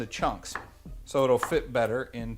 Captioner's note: banging